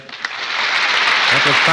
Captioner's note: applause